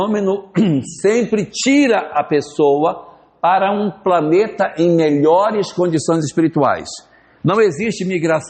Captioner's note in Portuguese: limpando a garganta